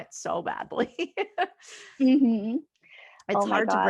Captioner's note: laughing